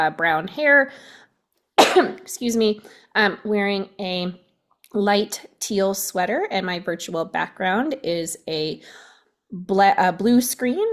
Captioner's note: coughs